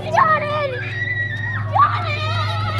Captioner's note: girl screaming